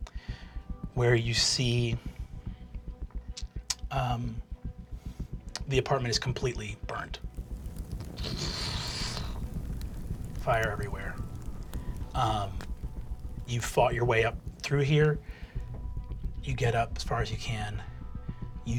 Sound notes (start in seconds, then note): 7.8 flames cracking; 8.7 blowing